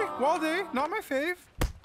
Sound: thud

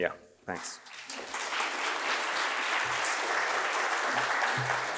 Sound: applause

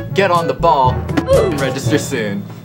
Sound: Roblox oof

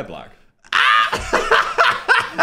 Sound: Dan screams; everyone laughs

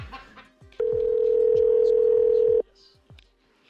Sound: phone ringing

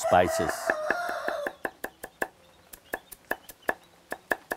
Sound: rooster crows/ chopping sounds

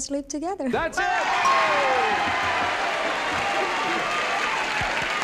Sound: applause and cheering

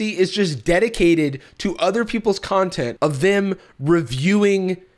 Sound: none

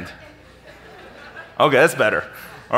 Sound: audience laughing

